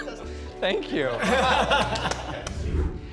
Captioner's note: chuckling; all chuckling; clapping; image whooshes